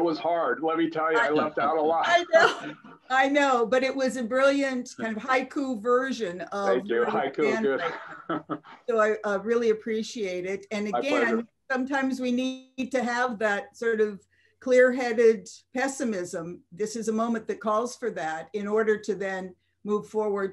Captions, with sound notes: hard let me tell you. I left out a lot. -I know, I know but it was a brilliant kind of haiku version -Thank you, haiku [LAUGHTER] -So I really appreciate it and again, sometimes we need to have that sort of clear-headed pessimism. This a moment that calls for that in order to then move forward